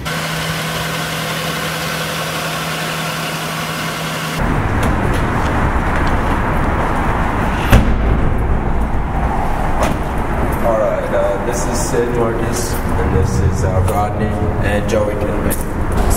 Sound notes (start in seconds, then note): 0.3 car noises; 4.7 car doors open and close